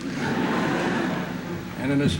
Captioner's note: laughter